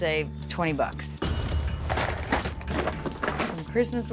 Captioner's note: cash register dings